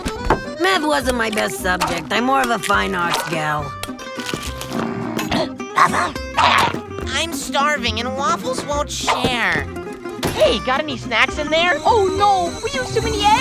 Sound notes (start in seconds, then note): 4.6 growling